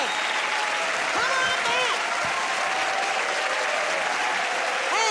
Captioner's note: cheers and applause